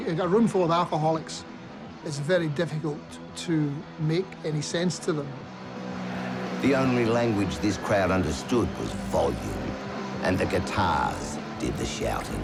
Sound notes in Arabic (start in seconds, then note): 6.6 هتاف الجمهور